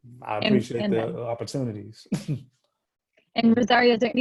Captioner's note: laughing